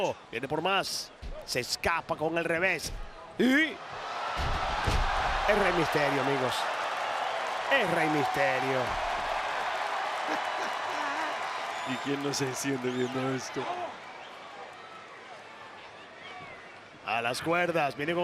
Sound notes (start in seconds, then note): 9.0 applause; 10.2 laugh; 14.4 applause